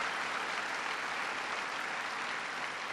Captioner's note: applause